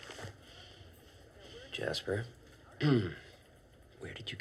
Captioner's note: clears throat